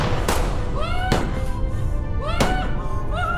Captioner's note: guns firing; yelling; guns firing